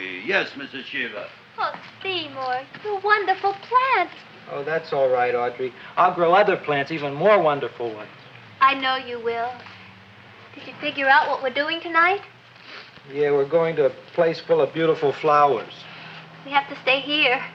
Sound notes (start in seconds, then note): none